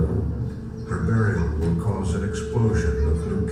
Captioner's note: voiceover